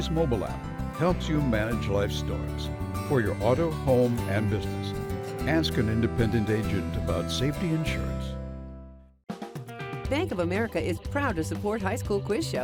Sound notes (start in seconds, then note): none